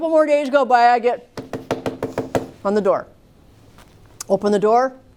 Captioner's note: knocking